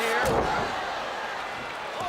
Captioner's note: crowd chatter